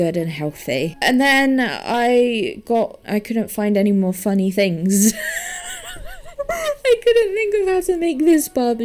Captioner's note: wheezes